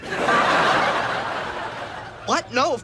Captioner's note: audience laughs